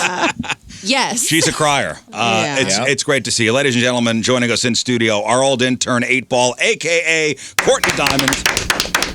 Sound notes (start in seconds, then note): 0.0 laughs